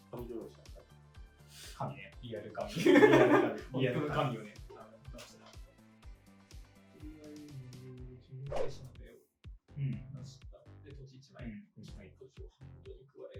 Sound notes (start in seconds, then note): 2.7 laughs